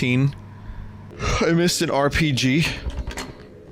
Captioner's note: yawns